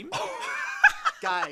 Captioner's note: laughter